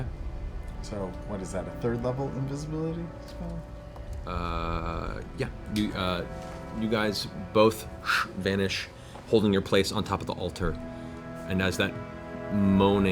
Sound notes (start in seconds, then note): none